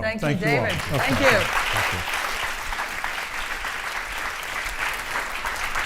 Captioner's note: audience applauding